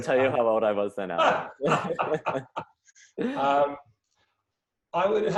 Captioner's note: both laughing